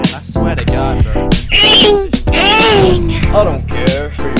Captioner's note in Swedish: inhales a demon